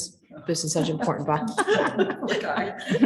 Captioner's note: chuckling